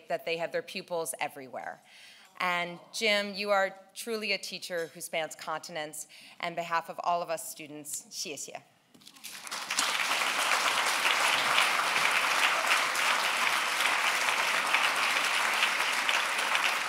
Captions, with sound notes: that they have their pupils everywhere. Jim, you are truly a teacher who spans continents, and behalf of all of us students (speaking in foreign language). (applause)